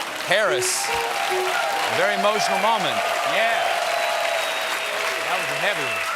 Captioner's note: applause